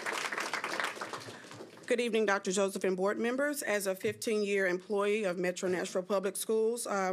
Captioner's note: applause